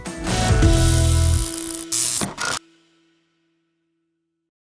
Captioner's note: electric ball buzzing